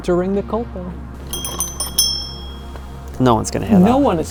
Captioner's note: bell dings